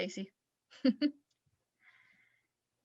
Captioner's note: chuckles